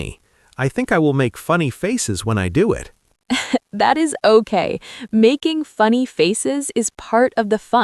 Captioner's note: laughs